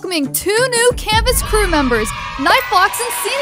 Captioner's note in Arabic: الأطفال يهتفون